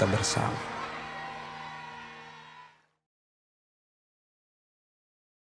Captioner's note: children cheering